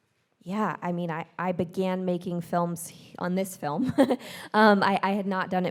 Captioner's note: chuckles